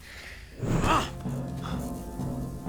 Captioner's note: grunts